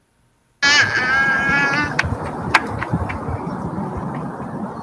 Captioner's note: little girl cooing